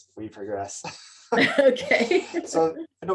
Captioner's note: chuckles